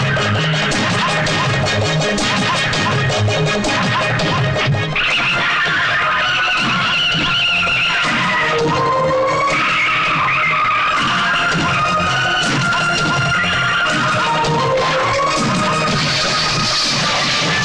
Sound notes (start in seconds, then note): 4.9 tire Screeching